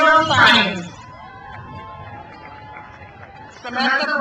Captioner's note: crowd cheers